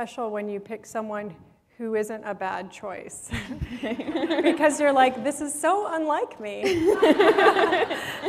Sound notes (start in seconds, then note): 3.2 laughter